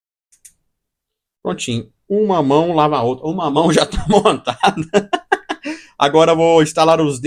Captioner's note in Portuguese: risadas